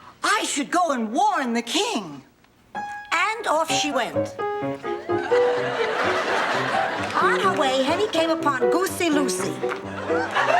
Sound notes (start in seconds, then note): 5.0 audience laughing; 5.2 piano playing; 9.5 audience laughing